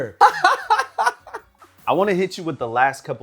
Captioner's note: laughing